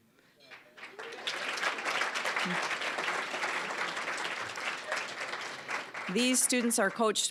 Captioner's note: applause